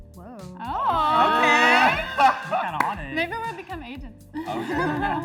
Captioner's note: excited chatter